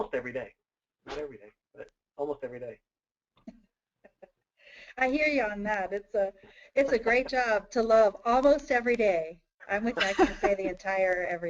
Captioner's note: chuckles